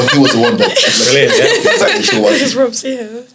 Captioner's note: laughs